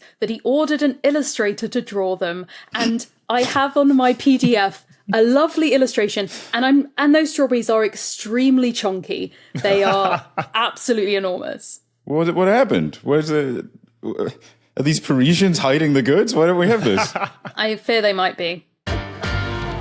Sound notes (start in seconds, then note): 9.5 chuckles; 16.6 laughs